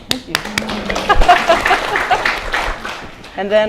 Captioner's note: applause